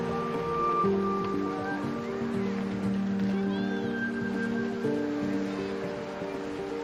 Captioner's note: birds calling, waves crashing voices in background